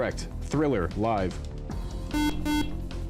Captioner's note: beep